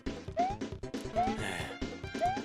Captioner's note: sigh